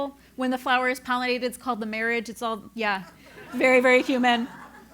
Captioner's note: laugh